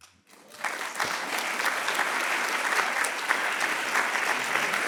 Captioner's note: audience clapping